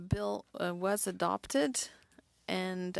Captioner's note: speaking french